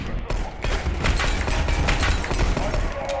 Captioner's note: gunshots